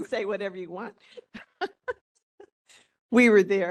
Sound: laughing

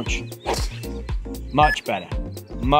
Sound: golf club whacks

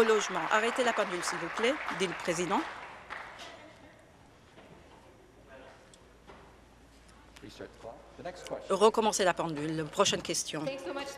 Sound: applause

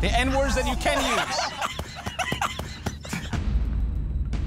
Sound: laughing

